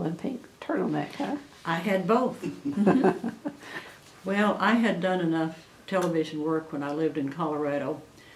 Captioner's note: laughter